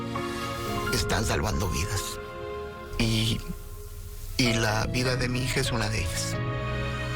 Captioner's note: speaking spanish